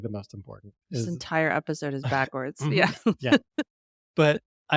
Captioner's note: laughs